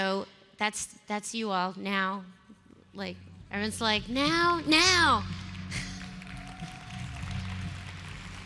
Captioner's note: applause